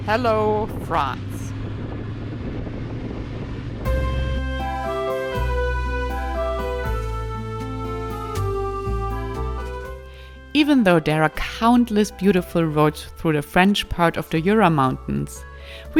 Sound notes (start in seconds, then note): 1.9 motorbike engine roaring; 1.9 wind blowing; 4.0 soft piano music